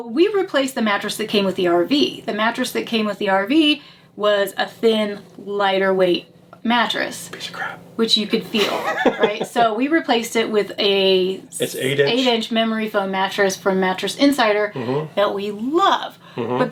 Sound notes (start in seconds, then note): 7.0 whispers; 8.6 laughs